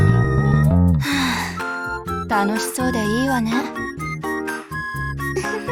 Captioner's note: sigh